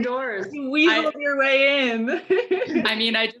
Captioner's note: laughing